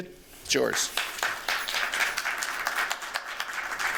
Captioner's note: applause